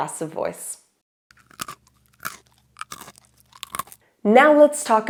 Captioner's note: crunching